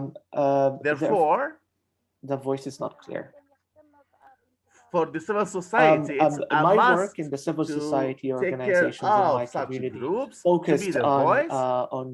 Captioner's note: speaking in their language